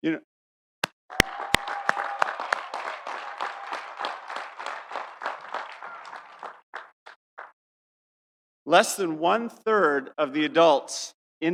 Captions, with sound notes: (audience cheering) (audience applauding) Less than one third of the adults